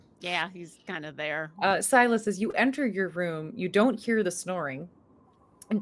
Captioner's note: none